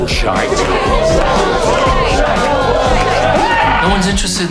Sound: crowd cheering

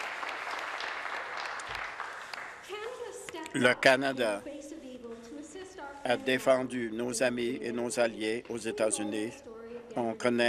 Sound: applause

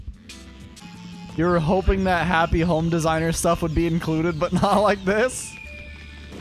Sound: laughs

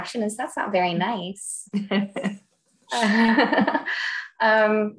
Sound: laughs

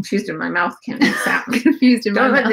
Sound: laughing

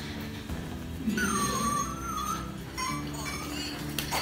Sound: sniffles

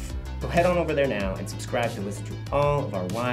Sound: none

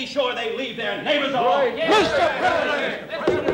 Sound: confused shouting; gavel pounding

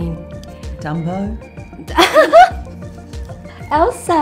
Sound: laughs loudly

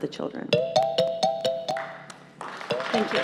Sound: chime sounds; applause

